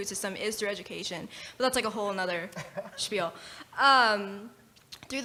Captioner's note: laugh